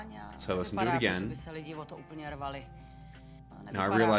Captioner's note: audio in Czech